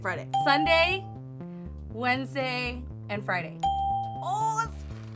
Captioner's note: bell rings; bell rings